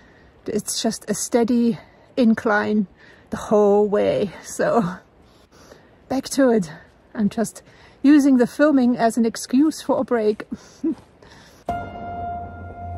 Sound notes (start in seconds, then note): 10.8 laughs; 11.7 ongoing upbeat music